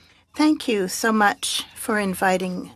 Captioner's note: speaking French